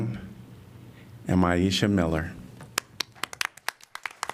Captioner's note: applause